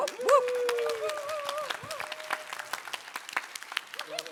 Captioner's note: applause